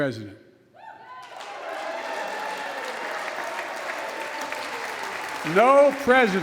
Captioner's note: applause